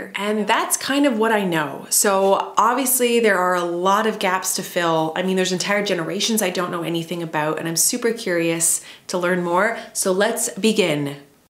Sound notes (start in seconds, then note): none